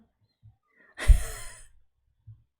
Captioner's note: laughs